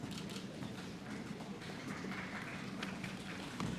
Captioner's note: applause